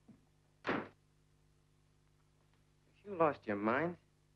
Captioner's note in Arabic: يُغلق الباب بقوة